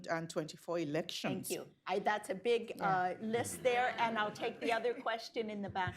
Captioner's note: laughter